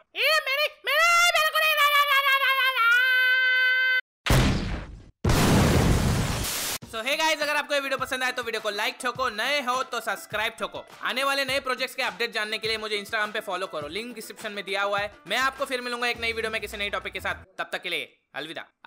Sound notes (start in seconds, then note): 5.2 blast sound